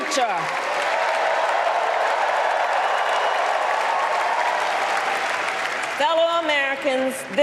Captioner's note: applause